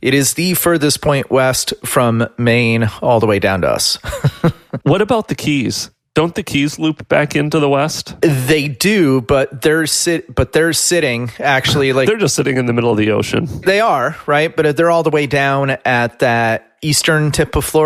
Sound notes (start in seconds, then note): 4.0 laughs